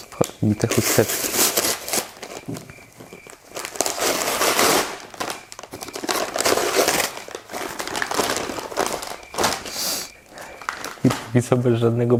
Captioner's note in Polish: nadal słychać świerszcze